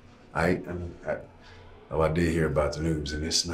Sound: none

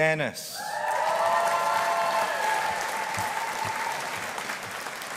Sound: audience applauding

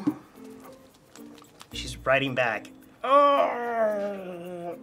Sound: groans

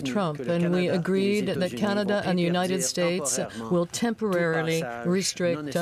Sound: speaking French

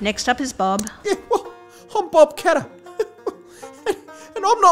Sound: laughs

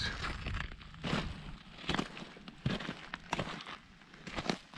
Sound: footsteps crunching

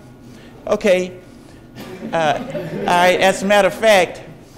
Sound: audience laughs

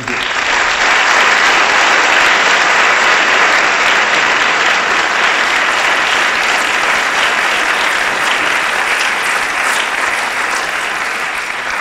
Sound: applause

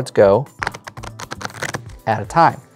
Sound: cards riffling

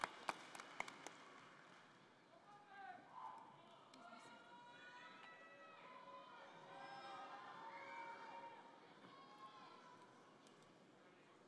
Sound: applause; cheers and applause

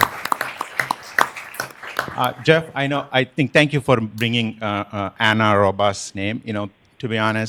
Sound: applause

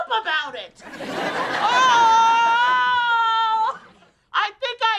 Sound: screaming

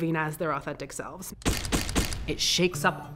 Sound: flashbulbs popping

